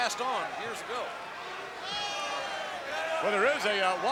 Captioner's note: crowd yelling